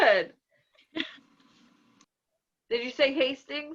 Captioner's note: laughs